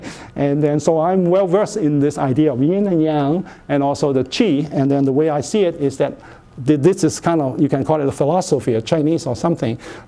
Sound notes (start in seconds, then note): none